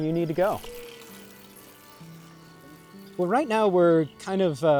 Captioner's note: bike whirring